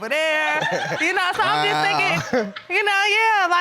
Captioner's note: audience laughing